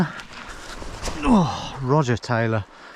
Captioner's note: grunting